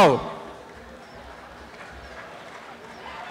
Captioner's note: applause and cheering